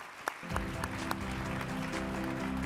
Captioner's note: crowd clapping; energetic music